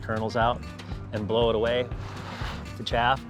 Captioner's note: blowing